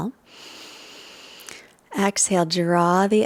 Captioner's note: breathing noisily